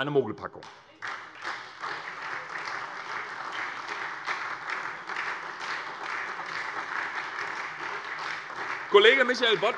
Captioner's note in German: Beifall SPD